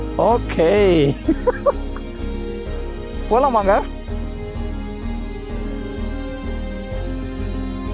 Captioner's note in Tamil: சிரிப்பு